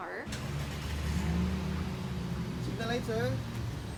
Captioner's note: car engine starting